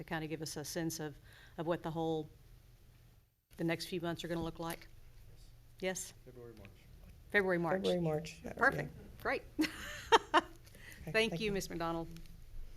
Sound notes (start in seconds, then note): 10.8 laughs